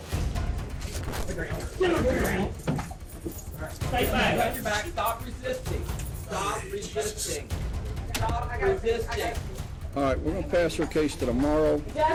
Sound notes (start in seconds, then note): 3.9 indistinct chatter